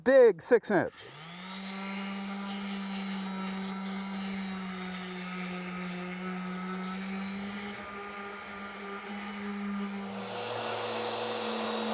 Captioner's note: sander running